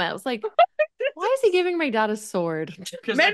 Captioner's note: laughs